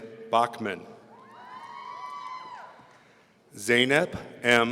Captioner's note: audience cheering